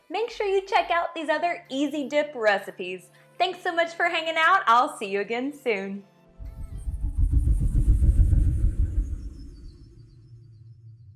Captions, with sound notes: make sure you check out these other easy dip recipes. Thanks so much for hanging out, I'll see you again soon. (revolving rattle)